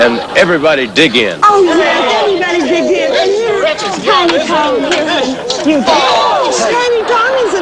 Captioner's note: overlapping chatter